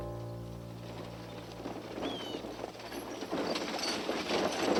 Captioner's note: wagon rattling